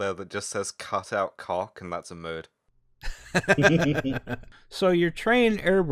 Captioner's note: laughter